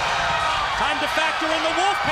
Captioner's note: crowd cheering